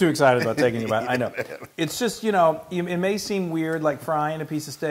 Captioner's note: laugh